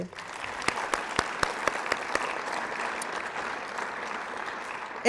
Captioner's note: applause